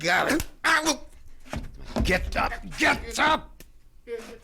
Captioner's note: hand slaps